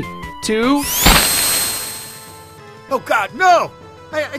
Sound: bodies thudding; sonic whirring

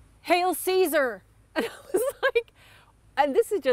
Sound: laughter

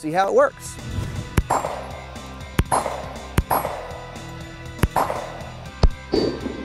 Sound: gunfire

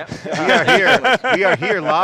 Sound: laughs

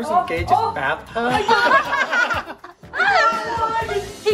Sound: everyone laughing

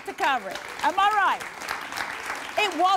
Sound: audience clapping

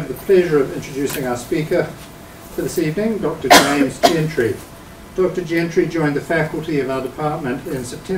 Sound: audience member coughing

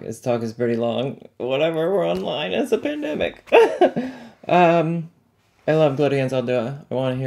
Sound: laughs

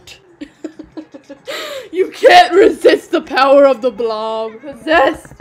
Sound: laughs

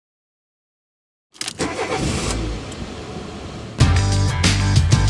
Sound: car engine starting

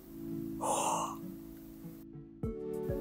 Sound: gasping

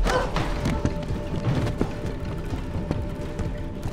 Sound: thudding

